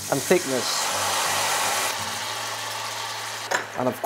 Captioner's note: sizzling sound